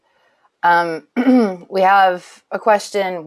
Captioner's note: clears throat